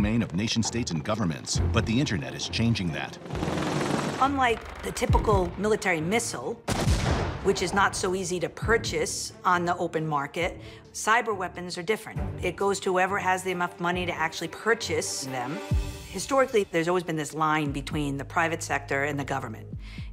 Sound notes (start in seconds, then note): 2.8 propellors whirling; 6.7 missile exploding